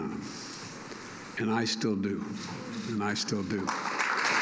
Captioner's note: applause